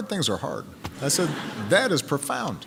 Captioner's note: laughter